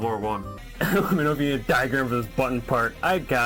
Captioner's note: laughing